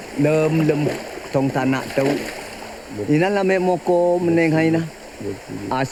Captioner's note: speaking in foreign language